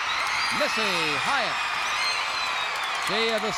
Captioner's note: crowd cheers